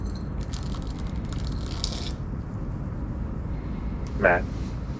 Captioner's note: solids crackling